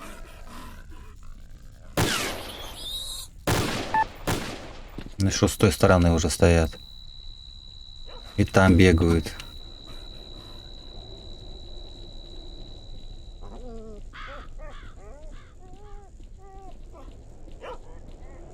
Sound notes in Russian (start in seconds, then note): 8.1 пение сверчка